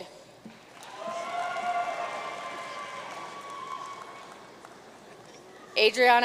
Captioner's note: audience cheering and applauding